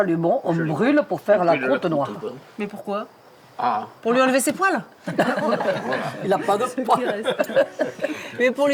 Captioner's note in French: rires